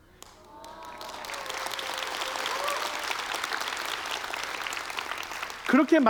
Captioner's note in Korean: 박수와 환호